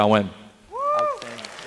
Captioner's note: applause